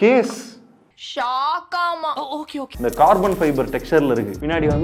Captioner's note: Tamil film dialogue